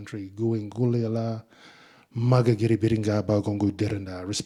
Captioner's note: speaking in Ngunnawal